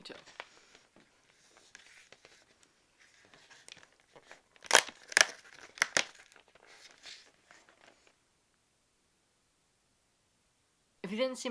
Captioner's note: Advent calendar door opening